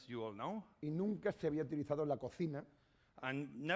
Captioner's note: speaking spanish